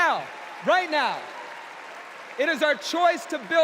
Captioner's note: applause